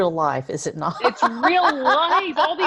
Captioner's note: laughs